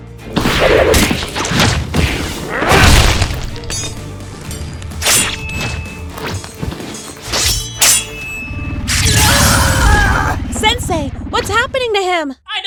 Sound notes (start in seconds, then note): 2.4 grunt; 8.9 scream